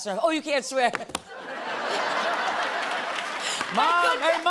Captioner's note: laughter